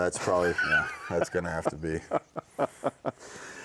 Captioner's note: laughing